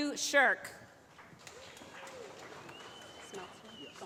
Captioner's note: applause